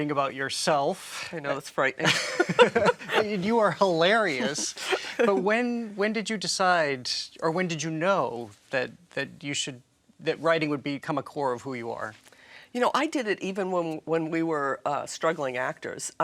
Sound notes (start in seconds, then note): 2.0 all laughing